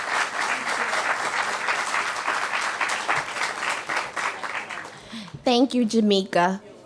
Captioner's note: cheers and applause